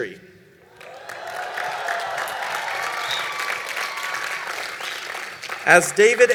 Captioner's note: applause